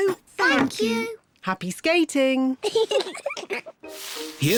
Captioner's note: giggles